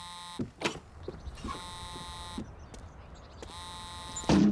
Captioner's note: the phone continues to ring